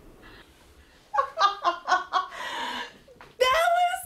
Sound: laughs

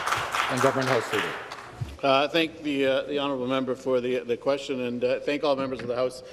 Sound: some Applause

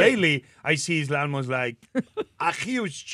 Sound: Martha chuckles

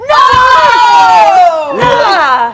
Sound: group screaming

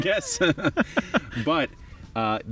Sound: both men laughing

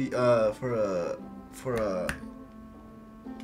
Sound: snaps

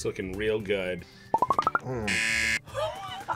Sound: buzzer

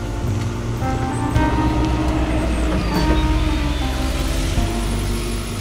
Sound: sound of guided bus passing

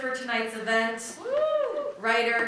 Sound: audience cheering

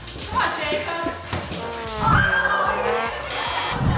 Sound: loud chattering

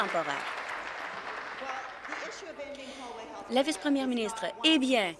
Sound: applause

